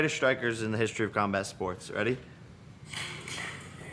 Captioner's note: none